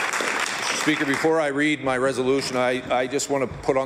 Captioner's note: applause